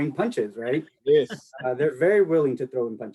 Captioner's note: laughs